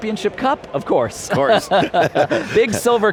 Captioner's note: laughter